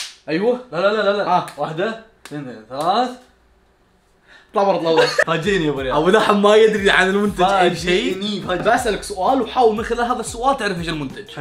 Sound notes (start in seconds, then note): 4.9 laughs